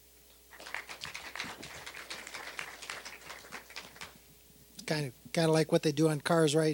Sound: applause

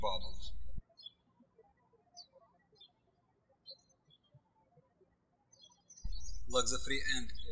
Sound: birds chirping

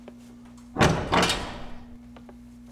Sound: door clicks shut

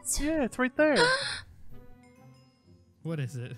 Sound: Tina gasps

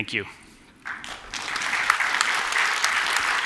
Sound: applause

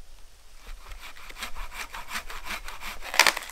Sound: saw rasping

